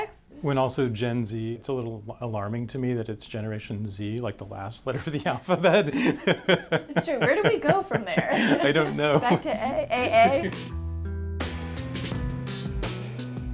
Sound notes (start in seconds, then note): 8.4 laughs; 10.2 laughs